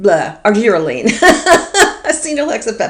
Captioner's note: laughs